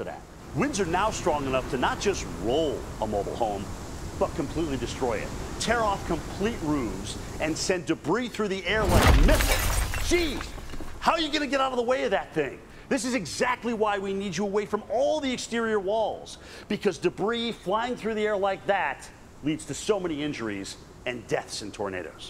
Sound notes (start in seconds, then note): 8.7 2 by 4 breaks window